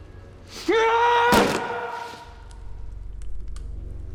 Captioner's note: yells